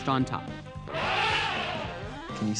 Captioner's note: elephant trumpeting